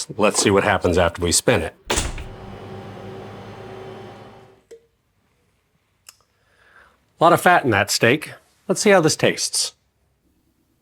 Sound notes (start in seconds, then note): 1.8 centrifuge humming